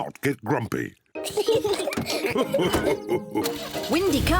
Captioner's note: chuckles; kids giggle